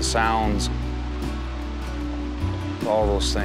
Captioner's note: grasses rustling in the wind